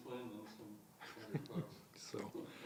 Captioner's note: laughs